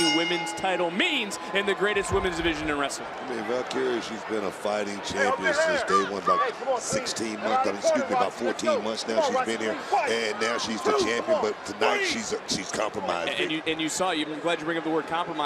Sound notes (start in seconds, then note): 2.6 bell rings